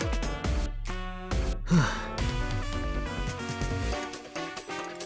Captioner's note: sigh